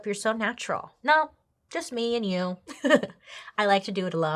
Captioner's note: laughs